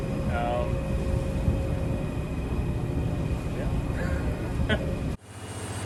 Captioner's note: chuckles